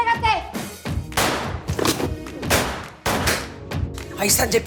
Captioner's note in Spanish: Disparos